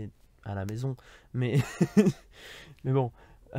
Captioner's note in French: Rires